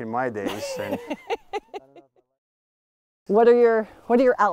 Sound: laughs

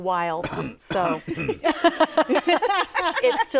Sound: coughs

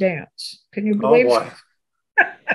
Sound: laughs

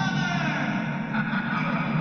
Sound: laughing

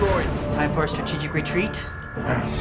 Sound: alarm

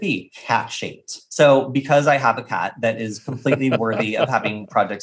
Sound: laughing

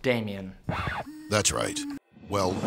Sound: record Scratch

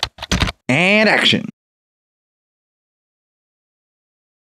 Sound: typing

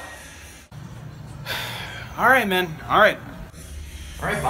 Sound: sigh

